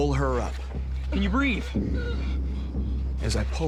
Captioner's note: gasping